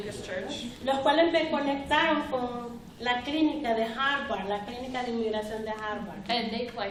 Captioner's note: speaking spanish